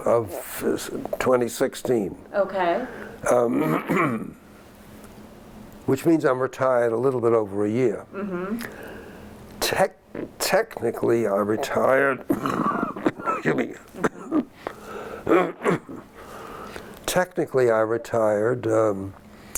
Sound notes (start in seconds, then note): 12.0 coughs